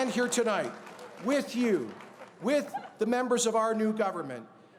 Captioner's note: cheers and Applause